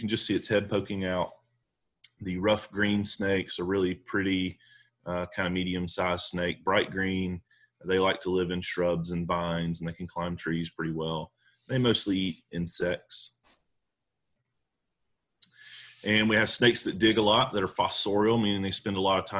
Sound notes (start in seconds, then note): none